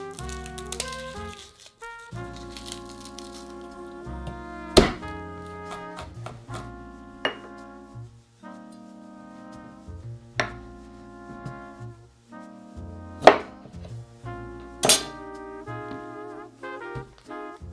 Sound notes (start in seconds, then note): 0.0 garlic paper rustling; 4.7 knife smashing; 5.4 knife mincing